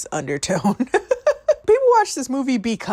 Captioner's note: laughing